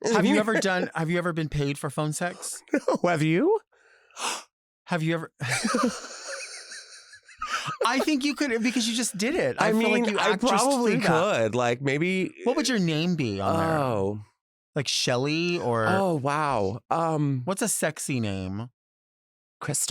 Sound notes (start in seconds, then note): 4.2 gasps; 5.4 laughs